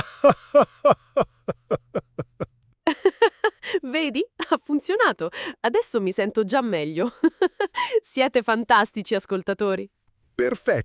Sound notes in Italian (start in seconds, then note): 0.0 risate; 7.2 risate